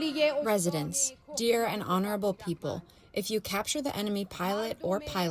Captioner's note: through translator